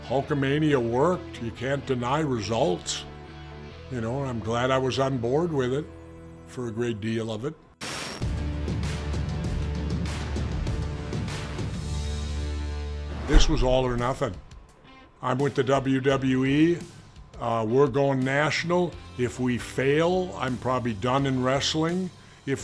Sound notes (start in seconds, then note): 7.8 static crackling; 8.4 compelling music